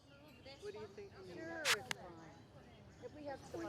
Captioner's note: people chattering